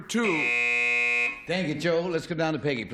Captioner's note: buzz